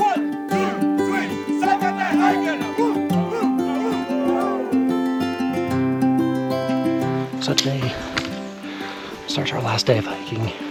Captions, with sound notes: One, two, three, salkantay hikers! (yelling) So today starts our last day of hiking.